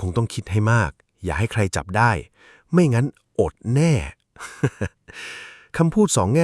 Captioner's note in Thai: เสียงหัวเราะ